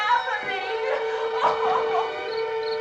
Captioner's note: whimpers; Barbra sobs